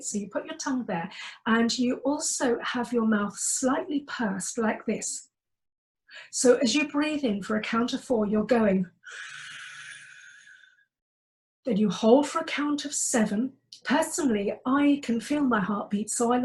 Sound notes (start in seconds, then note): 9.0 breathes in deeply